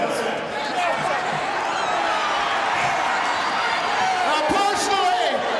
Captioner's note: audience cheering